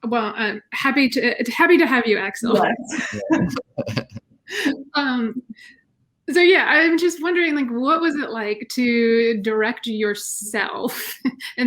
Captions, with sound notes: - Well, I'm happy to, happy to have you Axle. - Right. (all laughing) - Um, so yeah, I'm just wondering, like what was it like to direct yourself